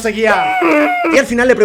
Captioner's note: annoyed dramatization